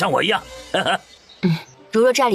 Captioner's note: chuckles